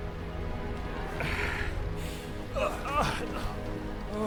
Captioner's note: man groaning